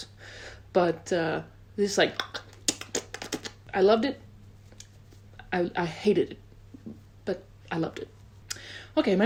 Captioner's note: makes smacking noises